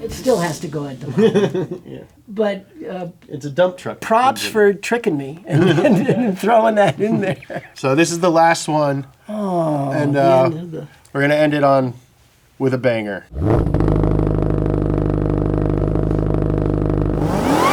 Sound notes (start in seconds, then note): 1.0 laughs; 5.4 laughs; 13.3 engine revs